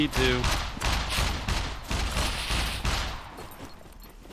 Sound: mech Gunshots; exploder Beeping

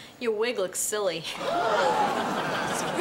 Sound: <i>crowd gasps

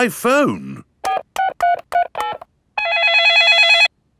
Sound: dialing; cell phone ringing

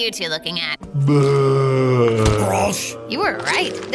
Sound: groans

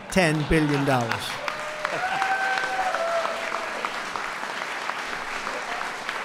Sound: laughter and applause

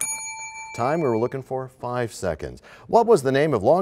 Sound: bell rings, time expires

